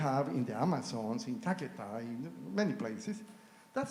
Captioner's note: speaks foreign language